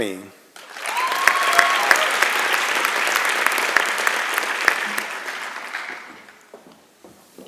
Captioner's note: applause and Cheering